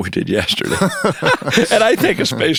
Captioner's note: both laughing